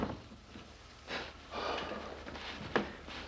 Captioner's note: exhales